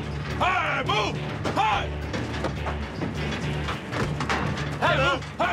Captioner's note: bull pounding in trailer